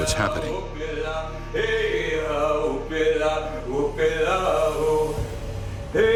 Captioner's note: chanting in Native language